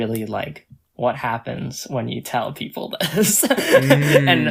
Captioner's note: laughs